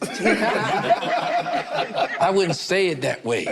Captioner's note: group laughs